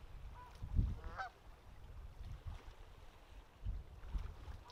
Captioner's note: duck quaking